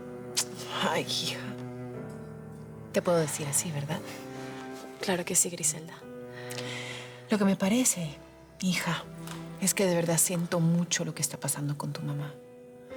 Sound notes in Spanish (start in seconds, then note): none